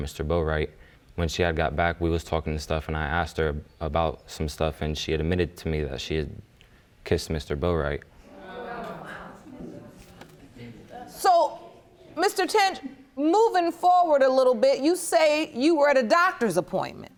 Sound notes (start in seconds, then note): 8.2 audience gasps